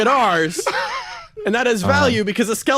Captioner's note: laugh